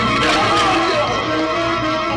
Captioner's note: dramatic orchestral music; Marlowe screams; shrew screeches